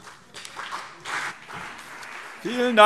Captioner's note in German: Beifall CDU und BÜNDNIS 90/DIE GRÜNEN